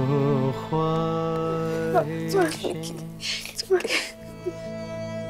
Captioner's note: Nikki crying